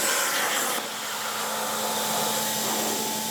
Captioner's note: machine whirring